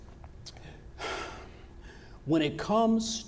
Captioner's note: exhales